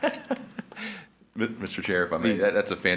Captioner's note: laughs